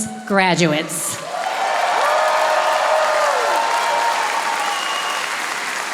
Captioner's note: audience applauding